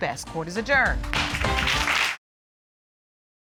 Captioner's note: audience applauds